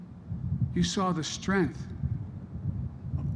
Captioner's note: none